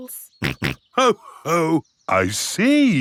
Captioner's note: snorts